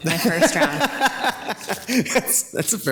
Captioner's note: laughs